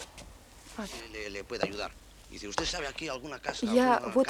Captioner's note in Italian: parlano in spagnolo